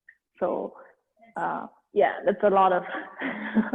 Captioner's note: chuckles